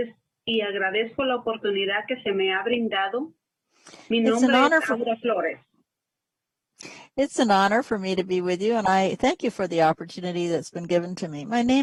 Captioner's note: speaking spanish